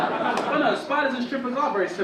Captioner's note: audience laugh